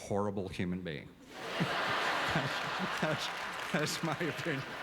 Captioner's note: audience laughter